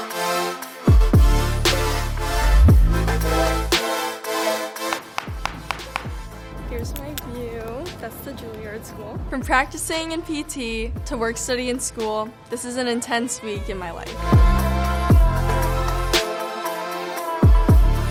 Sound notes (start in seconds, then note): 4.9 knocking; 13.5 upbeat electronic music